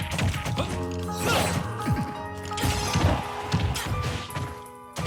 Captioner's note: blows thudding; light chiming music; fighters grunting